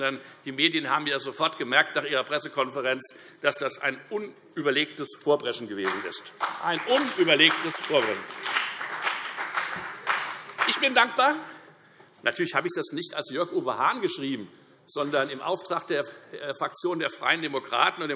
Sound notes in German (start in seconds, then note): 5.8 Beifall Freie Demokraten, CDU und BÜNDNIS 90/DIE GRÜNEN